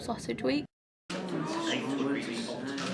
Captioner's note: background chatter